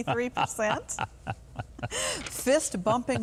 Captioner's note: Gov laughing